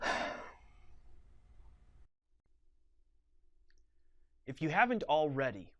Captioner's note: rough exhale